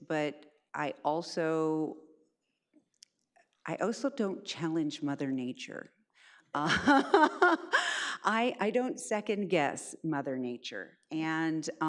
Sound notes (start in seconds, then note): 6.8 laughs